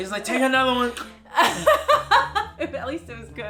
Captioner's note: laughs